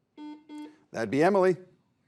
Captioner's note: buzzer beeps